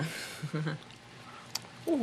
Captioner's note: laughs